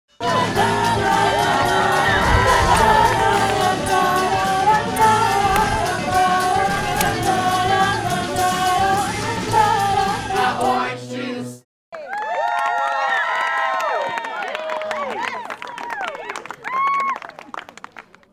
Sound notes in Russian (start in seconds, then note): 13.8 аплодисменты